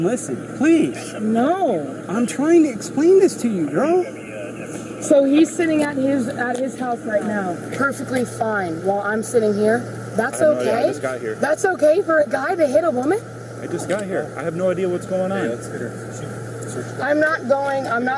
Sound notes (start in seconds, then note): 3.4 radio chatter